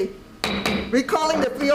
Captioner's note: gavel bangs